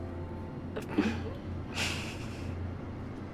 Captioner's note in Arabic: ضحك